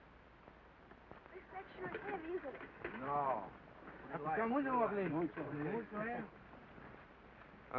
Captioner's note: indistinct conversation